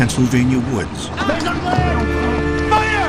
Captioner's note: soldiers shouting in French